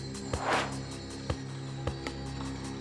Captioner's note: air swooshes; intriguing music continues